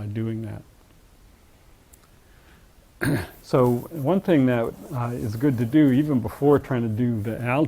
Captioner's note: cough